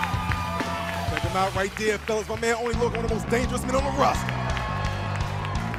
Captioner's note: cheers and applause